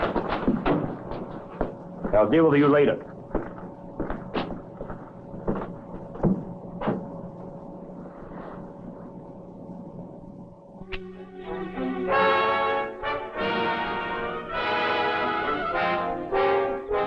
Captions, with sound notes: I'll deal with you later. (footsteps tapping) (Morris exhaling) (tense orchestral music) (crickets chirping)